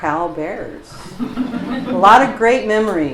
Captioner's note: laughter